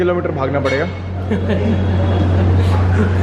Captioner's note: giggles